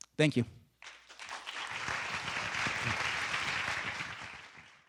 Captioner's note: students claps